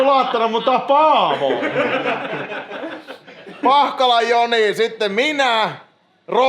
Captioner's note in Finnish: naurua